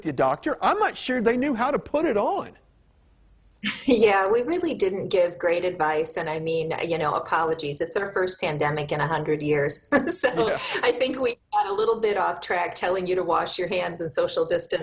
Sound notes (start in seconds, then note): 3.6 laughing; 10.0 laughs